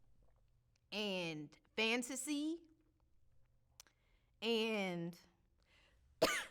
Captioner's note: coughs